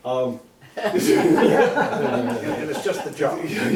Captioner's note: laughter